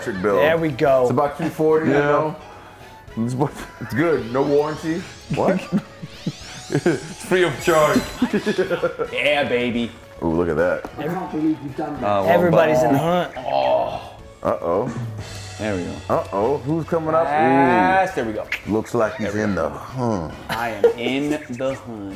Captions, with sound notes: >> It's about 240. It's good, no warranty. >> What? >> Free of charge. >> Yeah baby. >> Look at that. >> [LAUGH] >> Everybody's in the hunt. >> Uh-oh. >> There we go. >> Looks like he's in the hunt. >> In the hunt.